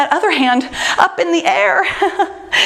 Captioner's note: laughs